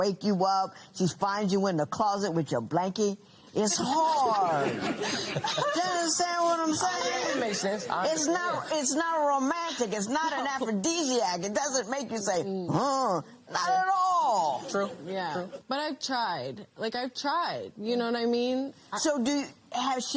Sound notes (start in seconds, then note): 3.7 laughter